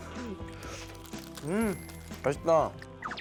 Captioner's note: slurp